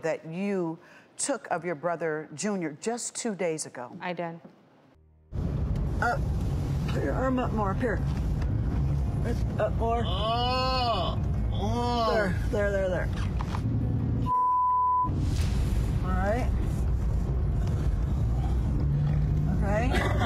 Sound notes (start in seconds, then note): 10.2 yelling